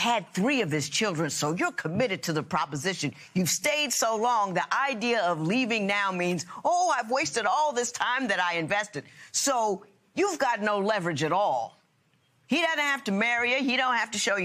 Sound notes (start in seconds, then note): none